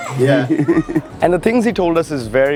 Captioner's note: laughs